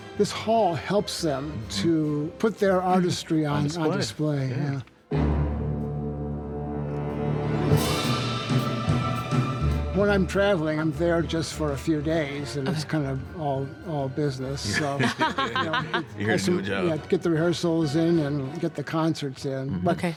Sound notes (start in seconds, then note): 5.3 lively orchestra music; 14.6 laughing